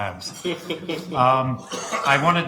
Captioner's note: laughing